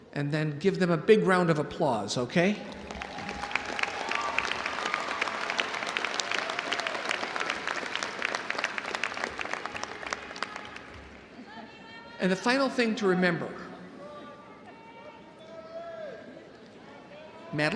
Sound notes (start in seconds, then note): 2.4 audience applauding; 2.4 audience cheering